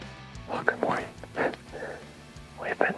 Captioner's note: whispering